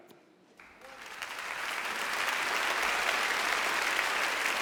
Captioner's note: audience applauds